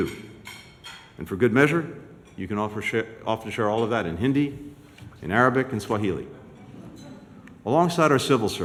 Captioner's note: laughter